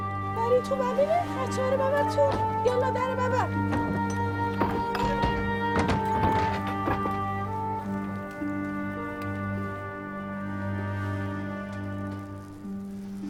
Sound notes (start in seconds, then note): 4.4 door closing